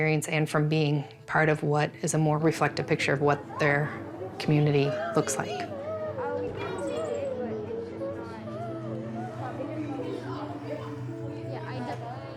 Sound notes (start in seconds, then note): 6.1 kids chatting indistinctly; 9.2 slow somber music